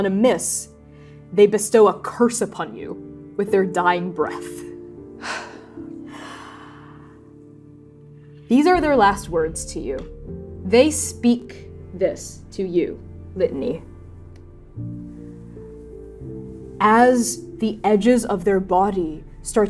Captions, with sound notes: on a miss, they bestow a Curse upon you with their dying breath. - [exhaling] [inhaling] These are their last words to you. They speak this to you, Litany. As the edges of their body